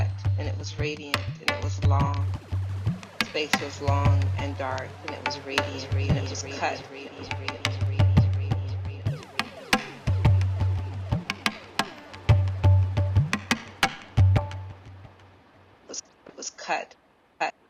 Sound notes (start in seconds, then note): 9.7 echoes; 10.3 tapping and drumming beat